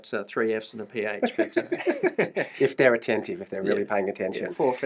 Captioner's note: laughs